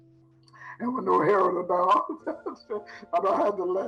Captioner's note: laughing